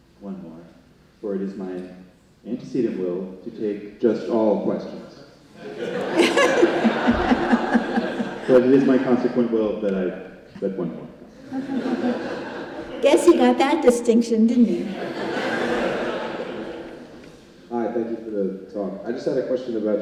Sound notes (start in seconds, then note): 5.6 congregation laughing; 11.4 congregation laughing; 14.7 congregation laughing